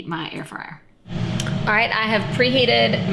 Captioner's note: air fryer whirring